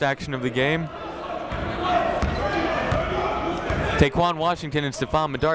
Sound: chatter

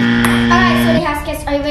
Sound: buzzer shrilling

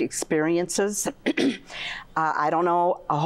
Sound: clears throat

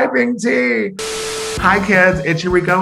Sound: static buzzing

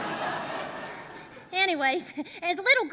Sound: laughter

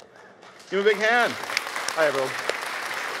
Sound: audience applause

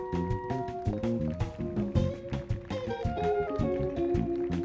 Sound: audience applauding

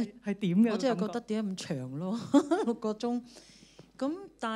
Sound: Cantonese

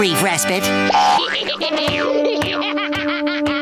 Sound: laughing

